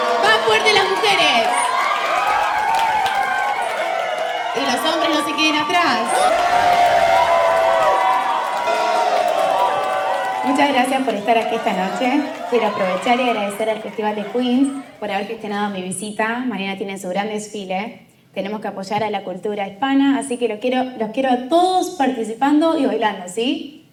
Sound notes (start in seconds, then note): 0.0 clapping; 1.4 cheering; 3.0 cheering; 5.7 clapping; 6.1 cheering; 6.7 clapping; 9.0 cheering; 11.7 clapping; 12.0 cheering